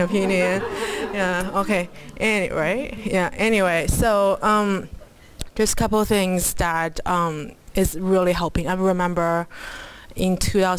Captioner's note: laughter